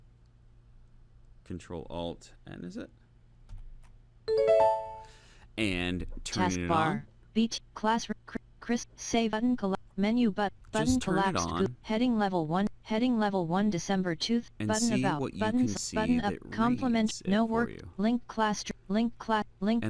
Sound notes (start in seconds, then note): 7.5 synthetic voice reads page